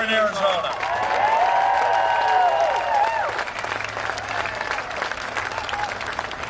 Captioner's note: cheering and applause